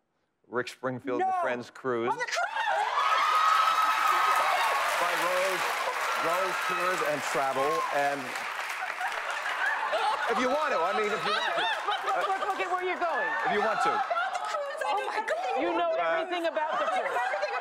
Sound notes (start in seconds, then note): 3.7 cheers and applause; 8.8 laughing